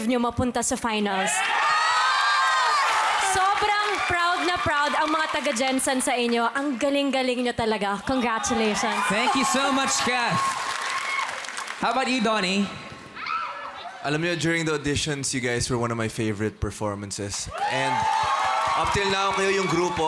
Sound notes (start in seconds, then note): 1.2 loud cheering; 11.7 applauding; 13.1 audience squeals